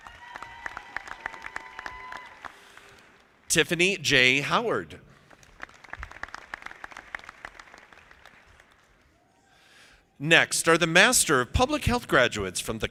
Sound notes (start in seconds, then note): 0.0 audience applauding; 5.2 audience clapping